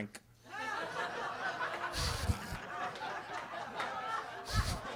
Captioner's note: everybody laughing